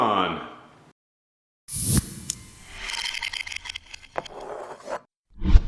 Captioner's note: ending sound effects